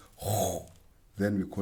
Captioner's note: makes deep-throated sound